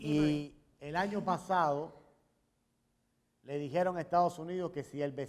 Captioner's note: speaking in Spanish